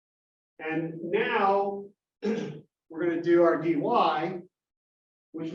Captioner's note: cough